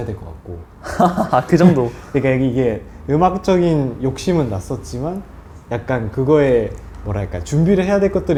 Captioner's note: haha